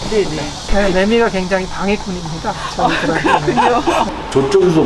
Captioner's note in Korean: 매미 소리